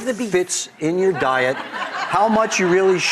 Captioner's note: audience laughs